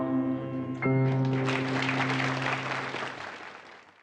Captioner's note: applause